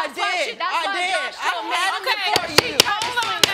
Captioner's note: gavel banging